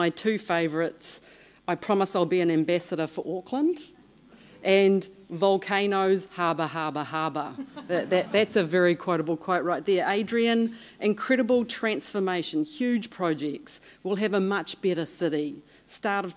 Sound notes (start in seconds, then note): 7.5 laughter